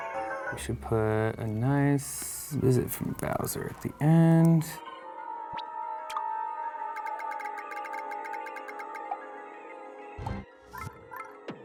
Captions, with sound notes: We should put a nice visit from Bowser at the end. (dramatic music) (popping)